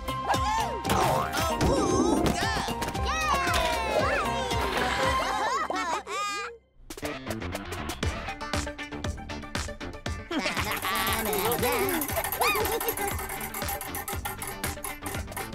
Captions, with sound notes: - Woo-hoo! - Awooga! - Yay! (laughing) (upbeat music) (laughing) - Woo! (giggling)